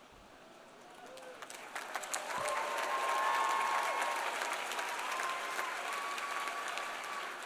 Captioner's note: audience applauding; audience cheering